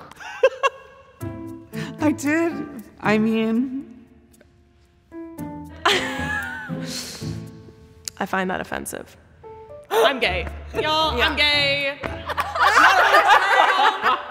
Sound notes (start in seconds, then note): 0.3 laughs; 5.9 laughs; 12.3 everyone laughs